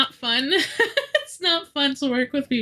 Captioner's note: laughing